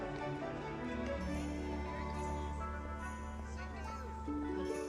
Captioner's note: chattering